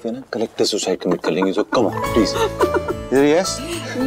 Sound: Poonam laughs

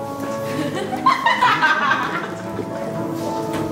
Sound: laughing

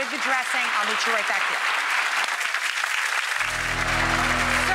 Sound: audience applauding

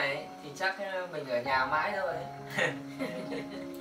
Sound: giggle

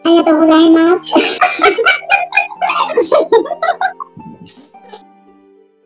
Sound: laughs

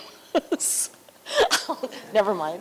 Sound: laughter

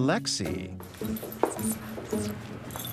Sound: whispers

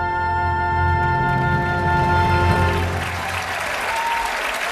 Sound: audience applauding

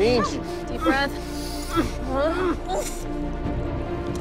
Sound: groaning

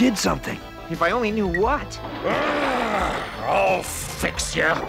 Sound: growls

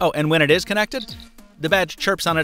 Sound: badge chirps

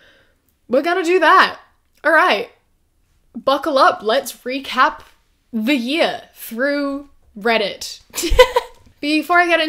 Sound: laughs

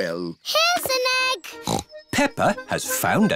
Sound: snorts

